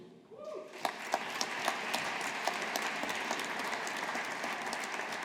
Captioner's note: audience applauding